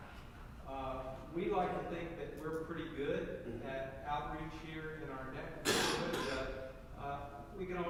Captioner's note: cough